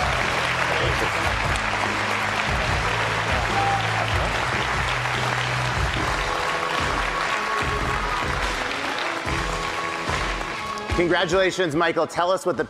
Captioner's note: applause